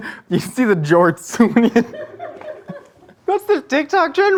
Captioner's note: laughs